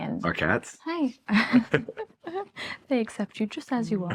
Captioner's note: laughs